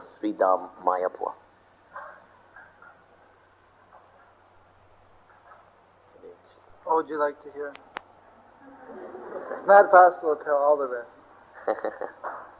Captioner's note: devotees laugh